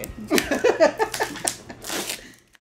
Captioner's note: laughter